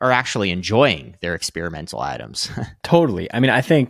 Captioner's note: chuckling